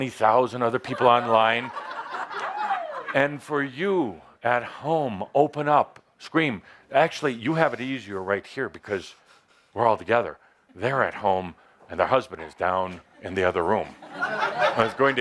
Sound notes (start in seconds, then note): 0.8 laughter; 13.6 laughter